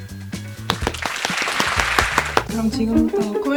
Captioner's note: welcoming applause👏🏻